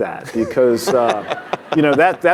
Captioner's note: laughing